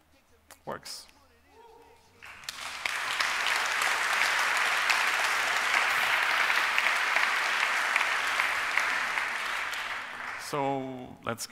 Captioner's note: applause